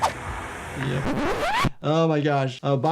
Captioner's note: record scratches